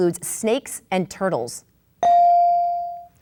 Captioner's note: bell dings